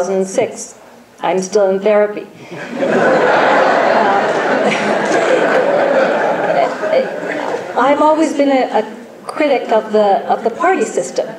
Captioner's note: audience laughs